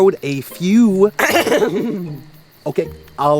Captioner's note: coughs